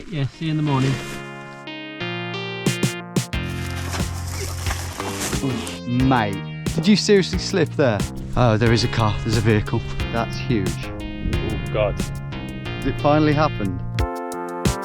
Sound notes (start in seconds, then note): 1.8 intriguing music; 3.3 grass rustling; 14.6 intriguing music continues